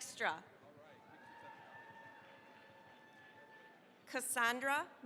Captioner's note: cheering, applause